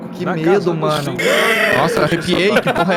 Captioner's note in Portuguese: risada